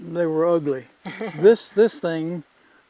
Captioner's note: laughs